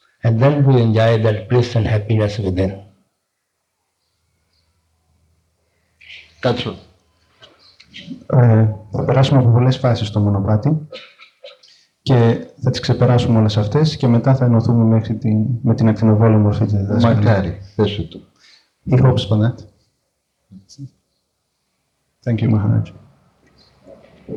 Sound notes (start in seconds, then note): 8.9 translating in foreign language